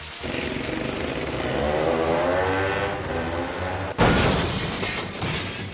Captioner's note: 2 Stoke sounds